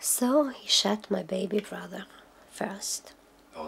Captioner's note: speaking Polish